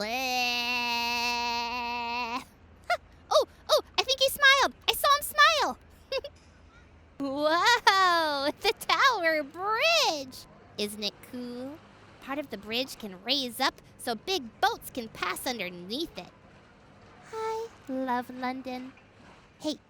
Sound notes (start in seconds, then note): 6.1 giggles